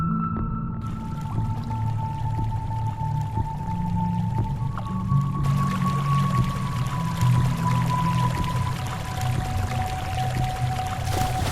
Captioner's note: gentle mystery music; flowing water